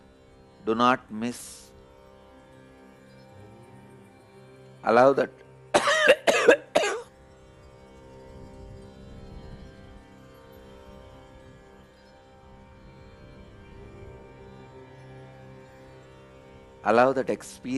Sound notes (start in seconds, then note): 5.7 coughs